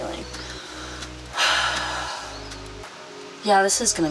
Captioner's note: sighs